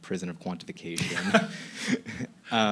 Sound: laughing

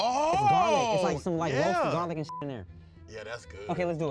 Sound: beep

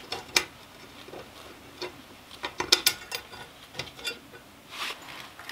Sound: tool scraping against metal

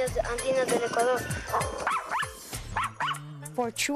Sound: barking

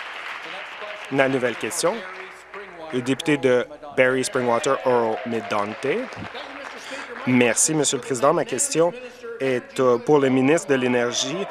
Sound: some Applause

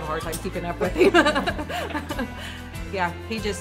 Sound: laughs

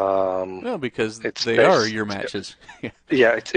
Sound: laughs

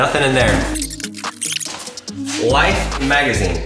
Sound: tape reel squeaks

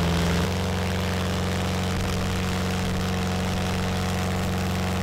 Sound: loud engine revving

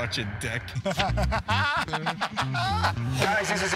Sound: laughter

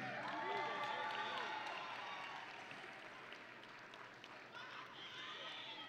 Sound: audience and graduates cheering

